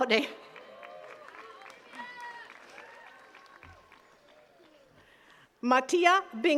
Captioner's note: attendees cheering and clapping